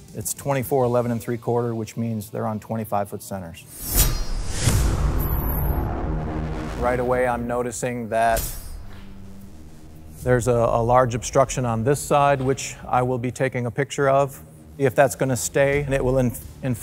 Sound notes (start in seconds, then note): 3.7 sword slicing; 5.3 metallic sound effect; 8.4 metallic whooshing sound